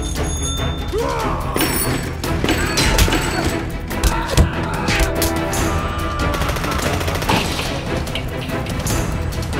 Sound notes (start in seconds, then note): 0.8 screaming